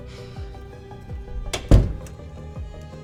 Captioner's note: upbeat suspenseful music; door thumps; upbeat suspenseful music